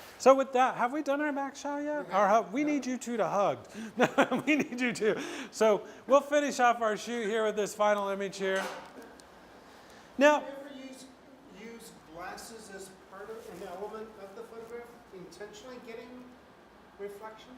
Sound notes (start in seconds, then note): 3.8 laughs